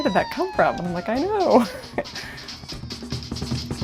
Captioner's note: laughing; polynesian drumming